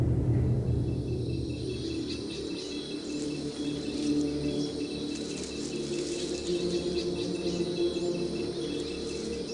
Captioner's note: distant sounds of machinery; chirping of night insects and birds